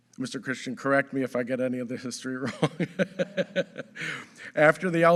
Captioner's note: laughs